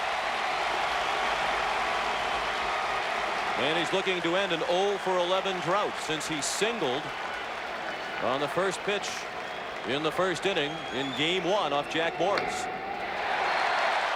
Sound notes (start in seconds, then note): 6.9 applause; 8.0 cheering and Applause